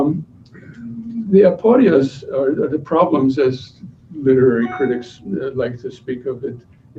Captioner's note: non-english speech